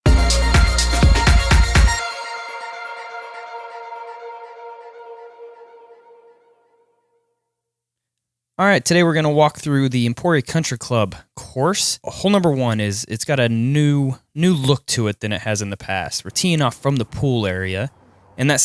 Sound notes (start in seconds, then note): 0.0 upbeat music; 8.7 voiceover